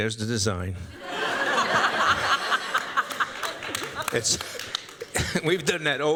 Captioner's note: laughter